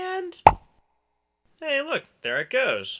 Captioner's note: pop